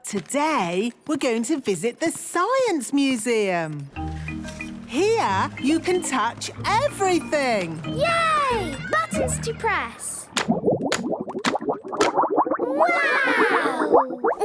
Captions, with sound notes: But today, we're going to visit the Science Museum! Here, you can touch everything! - Yay! Buttons to press! - (bubbling) - Wow!